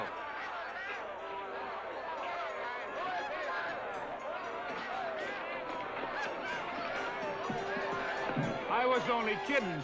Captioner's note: jovial crowd commotion